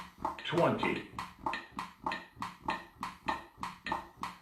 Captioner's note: clicking